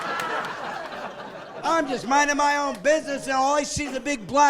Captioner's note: laughing